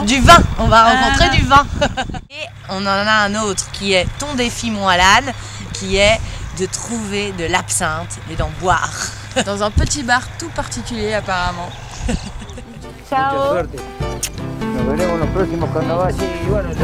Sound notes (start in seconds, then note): 1.6 laughter; 8.4 laughs